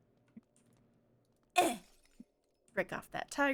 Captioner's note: grunt